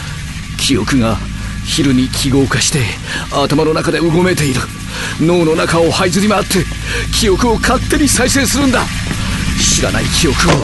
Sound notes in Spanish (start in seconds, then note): 0.1 sonidos eléctricos